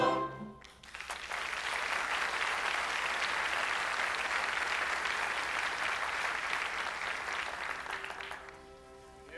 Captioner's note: applause